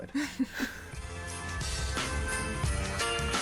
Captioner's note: laughter